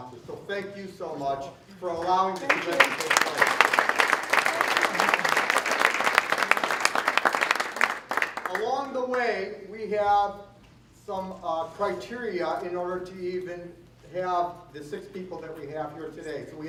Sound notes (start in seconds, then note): 2.3 applause